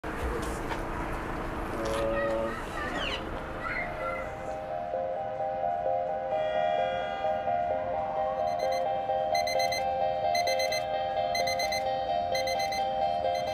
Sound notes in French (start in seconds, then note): 6.2 Bruit de klaxon; 10.2 Sonnerie de réveil